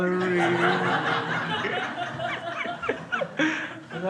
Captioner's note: crowd laughs